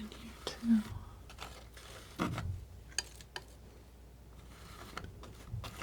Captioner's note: scratching